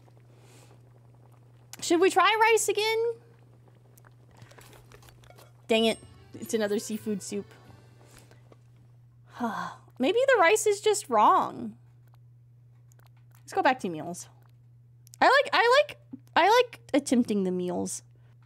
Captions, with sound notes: Should we try rice again? Dang it. It's another seafood soup. [Sigh] Maybe the rice is just wrong. Let's go back to meals. I like- I like- I like attempting the meals.